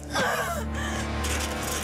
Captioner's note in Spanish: Sollozos